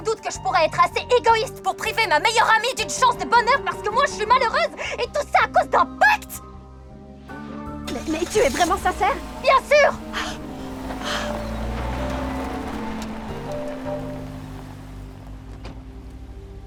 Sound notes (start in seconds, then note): 10.6 chuckling